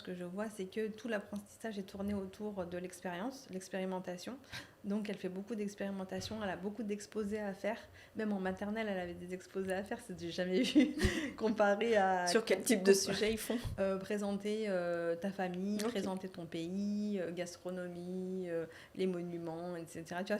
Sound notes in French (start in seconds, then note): 10.6 rires